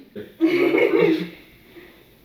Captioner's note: laughs